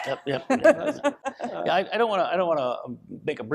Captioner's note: laughs